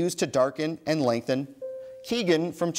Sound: bell dings

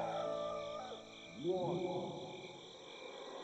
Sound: referee's voice echoing

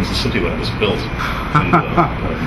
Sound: laughs

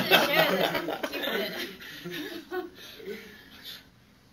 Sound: laughter

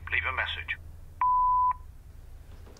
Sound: phone beeps

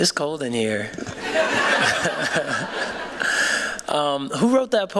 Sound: laughter

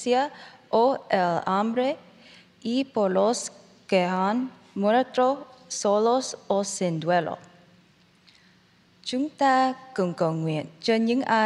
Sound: speaking in spanish

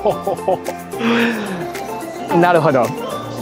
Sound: gasps

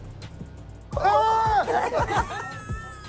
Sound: screaming; laughing

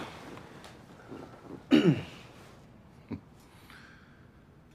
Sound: chuckles softly; clears throat

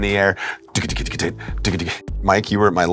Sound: vocal percussions

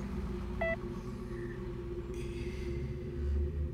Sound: heart monitor slows

